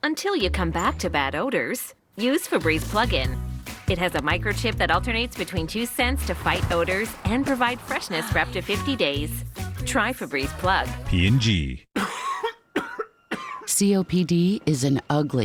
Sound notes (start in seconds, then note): 11.9 coughing